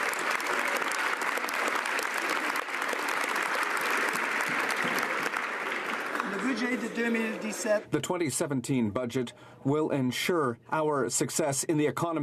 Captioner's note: some Applause